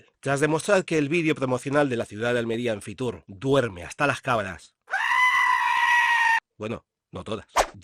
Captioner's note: screaming goat